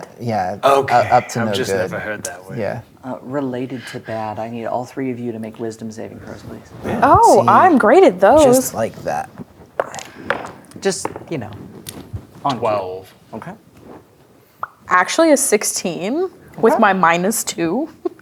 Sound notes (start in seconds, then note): 6.8 sarcastically; 9.3 dice rolling; 14.6 pops lips